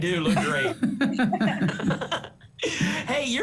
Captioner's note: laughter